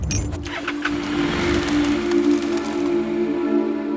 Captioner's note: motorcycle engine roaring; birds humming